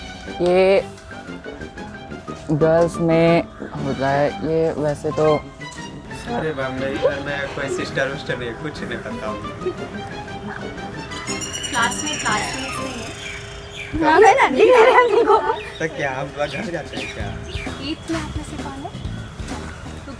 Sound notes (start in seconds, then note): 9.6 classmates laughing; 14.0 classmate laughing